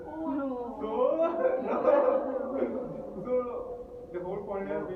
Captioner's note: empathetic laughter in audience